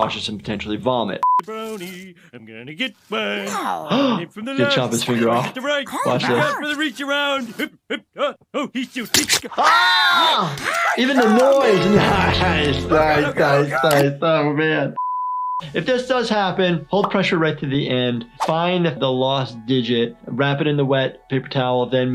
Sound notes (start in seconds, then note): 3.4 gasps; 7.6 vocalizes wordlessly; 9.2 knife slices; 9.6 Marge and Homer yell